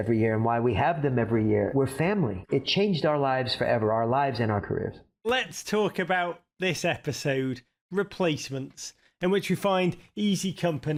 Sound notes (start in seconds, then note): none